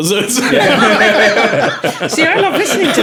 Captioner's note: laughing